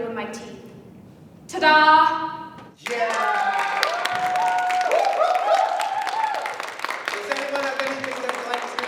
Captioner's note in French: Applaudissements